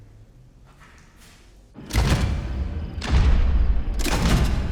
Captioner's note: lights clicking